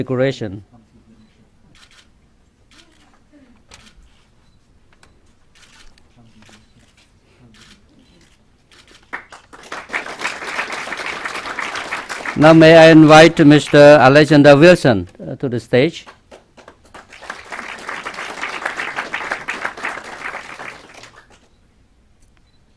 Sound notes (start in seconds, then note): 9.0 clapping; 16.0 clapping